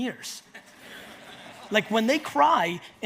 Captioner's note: audience laughs